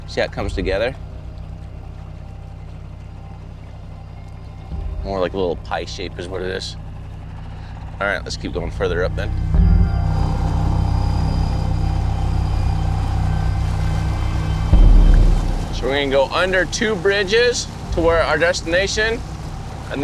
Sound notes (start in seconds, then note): 10.0 boat engine revs